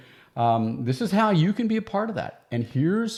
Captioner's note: none